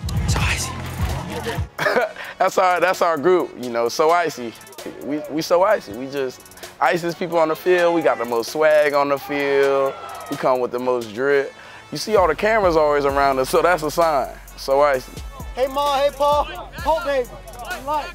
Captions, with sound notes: So “Icy.” (Laughs)... That's our group, you know? So “Icy,” we so “Icy.” We just the “Iciest” people on the field. We got the most swag on the field. We come with the most drip. You see all the cameras always around us so that's a sign. So “Icy.” So “Icy.” Hey Ma, Hey Pa.